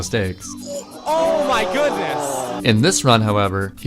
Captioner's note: crowd oohing